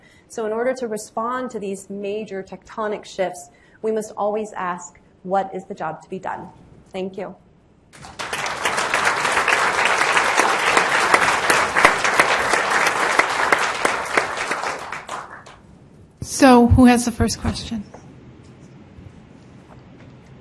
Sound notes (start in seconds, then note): 7.9 audience clapping; 16.3 voiceover